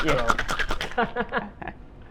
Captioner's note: laughs